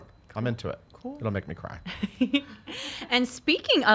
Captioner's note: giggles